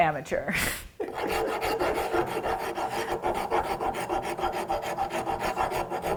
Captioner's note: rasp scratches against wood